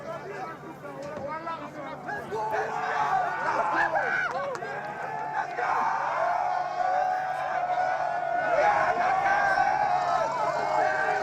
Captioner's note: cheers and Applause